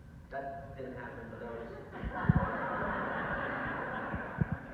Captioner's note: audience laughter